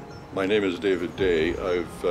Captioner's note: voiceover